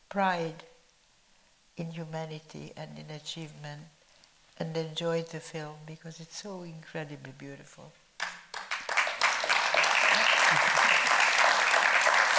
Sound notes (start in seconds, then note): 8.2 audience clapping